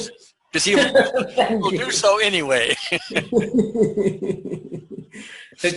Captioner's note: laughs